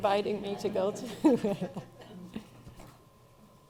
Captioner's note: laughing